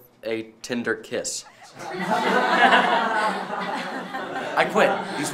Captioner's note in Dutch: lacht